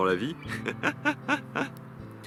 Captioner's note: laughs